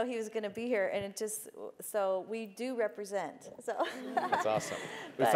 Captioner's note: laugh